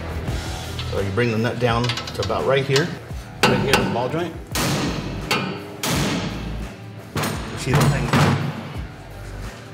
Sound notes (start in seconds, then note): 4.5 metal whacks